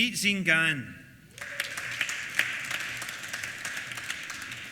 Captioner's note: applause